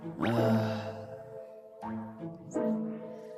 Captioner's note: Fuu2 sighs